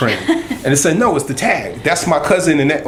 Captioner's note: laughter